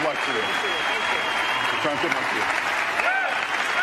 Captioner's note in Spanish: aplausos